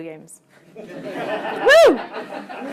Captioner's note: laughter